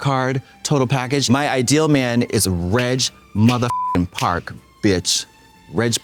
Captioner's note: beep